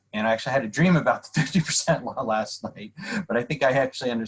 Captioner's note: laughter